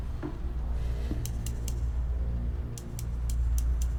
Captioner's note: click-click-click